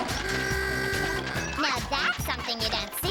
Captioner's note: horn honks